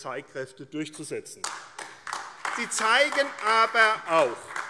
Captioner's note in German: Beifall AfD